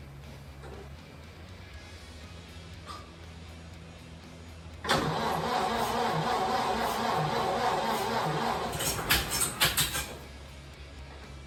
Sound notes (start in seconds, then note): 4.8 engine cranking